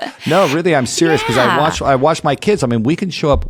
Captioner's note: laugh